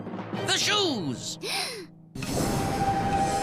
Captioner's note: Becky gasps